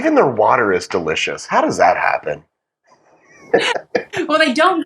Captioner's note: laugh